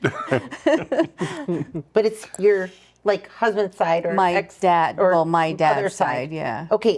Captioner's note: laughing